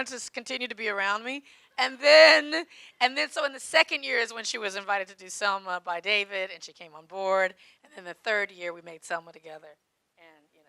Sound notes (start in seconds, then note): none